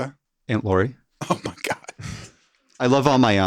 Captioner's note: laughs